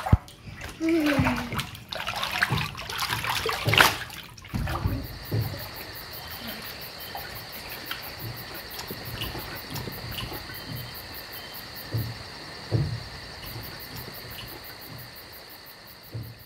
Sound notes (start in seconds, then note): 6.5 crickets chirping